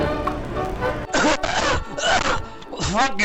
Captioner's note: coughing